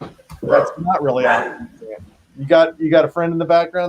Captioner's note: dog barking